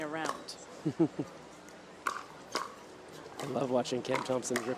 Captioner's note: laughs